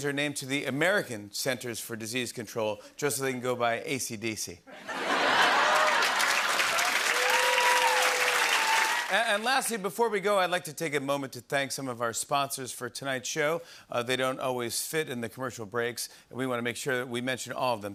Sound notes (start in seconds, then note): 4.8 laughter, cheering, and applause